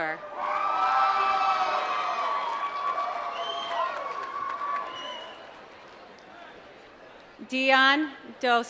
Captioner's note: applause